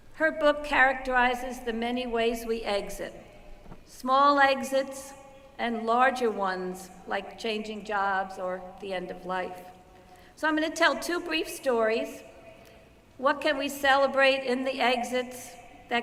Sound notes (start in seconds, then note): none